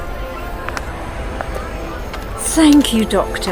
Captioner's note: footsteps